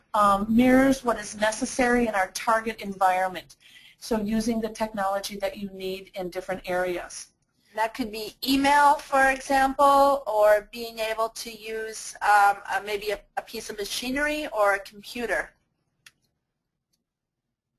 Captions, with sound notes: mirrors what is necessary in our target environment. So using the technology that you need in different areas. - [Voiceover] That could be email, for example, or being able to use maybe a piece of machinery, or a computer.